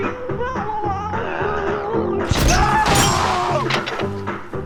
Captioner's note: garbled audio, followed by explosion and screaming